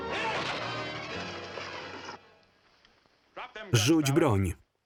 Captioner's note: men grunting